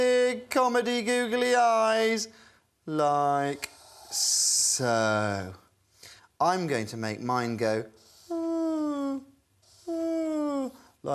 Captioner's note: ooh, ooh